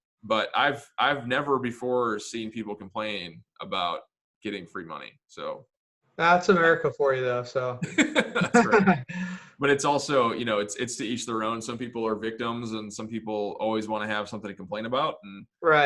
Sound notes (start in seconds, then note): 7.8 laughs